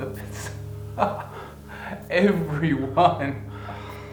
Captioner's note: laughs